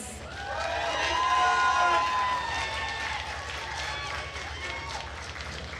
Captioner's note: attendees cheering and applauding